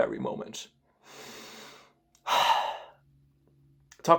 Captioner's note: deep breath ft. sigh of relief